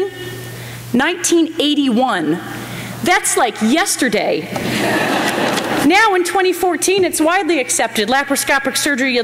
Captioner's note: laughter